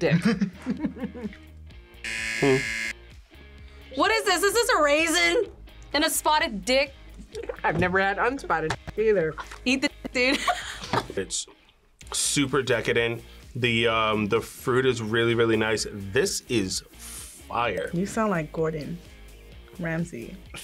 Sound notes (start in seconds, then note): 0.0 both chuckle; 2.0 buzzer; 9.9 both laugh